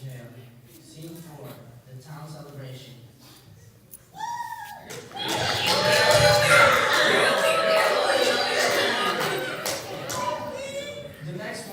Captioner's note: cheerful chatter in the town square